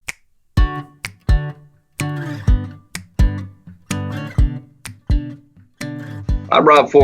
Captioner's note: upbeat acoustic guitar music; finger snapping